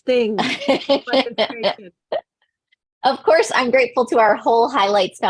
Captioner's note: laughing